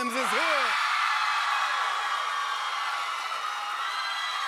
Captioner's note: cheers and applause